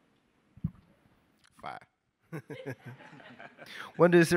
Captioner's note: all laugh